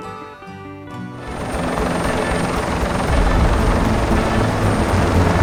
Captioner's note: helicopter blades whir